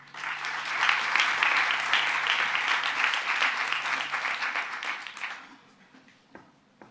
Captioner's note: applause